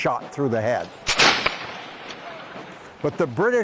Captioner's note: gun cracking